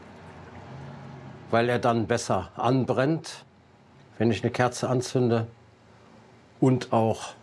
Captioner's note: none